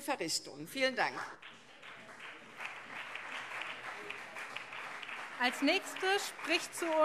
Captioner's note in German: Beifall CDU und SPD